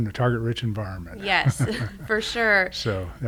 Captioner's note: laughing